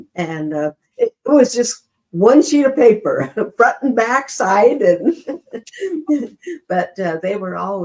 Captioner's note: chuckles